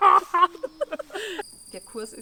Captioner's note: laughs